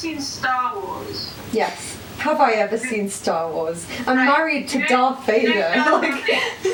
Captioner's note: laughs